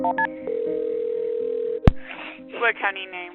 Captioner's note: soft music; phone ringing